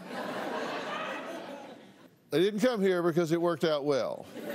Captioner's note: laughter